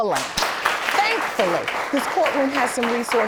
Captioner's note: audience applauding